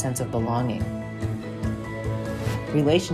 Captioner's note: gentle upbeat music; graphic whooshes